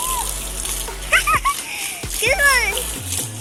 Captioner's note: laughs